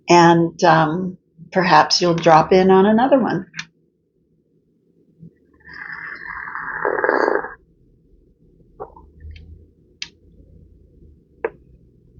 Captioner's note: slurp